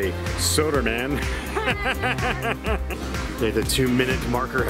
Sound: laughs

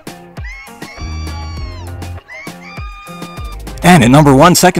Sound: crowd cheering

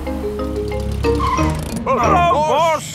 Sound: brakes squeal

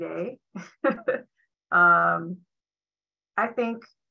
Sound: chuckling

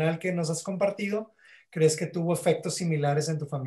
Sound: speaking Spanish

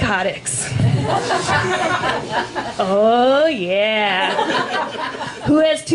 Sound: laughter

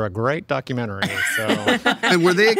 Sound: all laughing

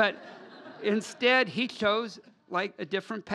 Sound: laugher

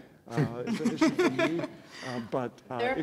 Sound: laughter

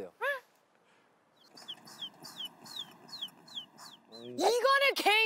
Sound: sound of birds in Nature

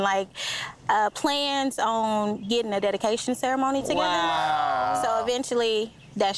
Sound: both exclaiming

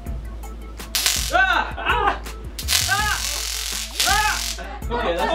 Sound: stun gun and screaming

